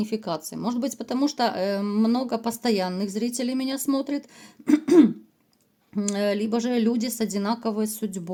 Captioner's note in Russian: откашливается